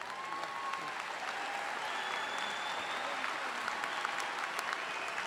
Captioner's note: audience applauding